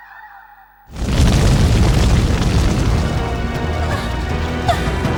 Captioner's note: fire blazes